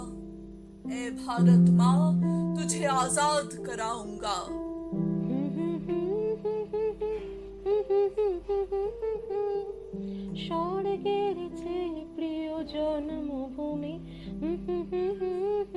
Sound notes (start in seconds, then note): 5.9 hums a tune